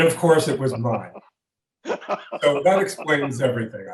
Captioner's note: laughs